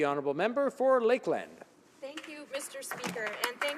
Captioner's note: some applause